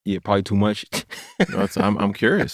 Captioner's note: laughter